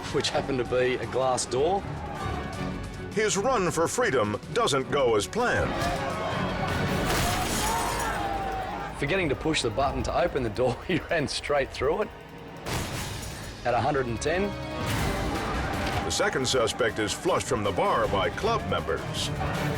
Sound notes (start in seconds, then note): 6.7 people chants; 11.1 chuckles